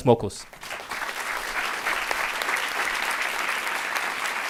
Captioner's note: audience applauds